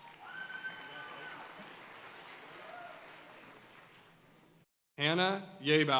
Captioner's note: audience cheering and applauding